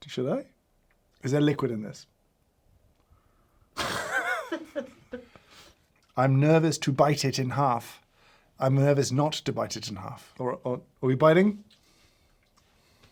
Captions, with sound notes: Should I? Is there liquid in this? (laughs) I'm nervous to bite it in half. I'm nervous not to bite it in half. Are we biting?